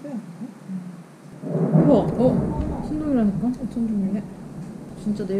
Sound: thunder

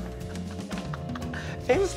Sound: chuckles

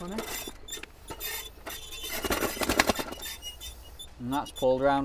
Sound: scale creaks

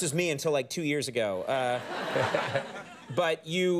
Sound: studio audience laughs

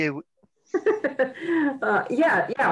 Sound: laughing

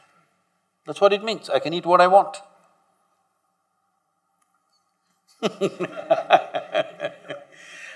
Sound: laughs

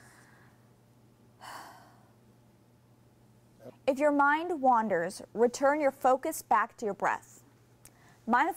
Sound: exhales

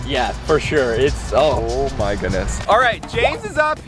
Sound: none

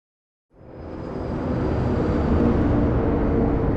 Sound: vehicle humming

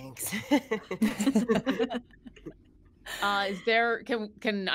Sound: all laughing

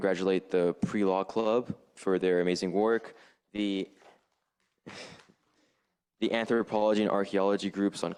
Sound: chuckle

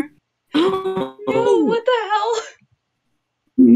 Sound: glitching

